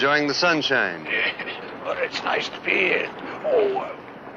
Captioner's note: mister Kramer laughs